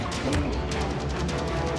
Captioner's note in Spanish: puñetazos